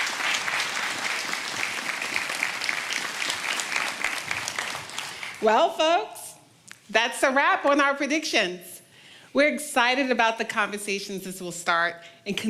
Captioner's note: applause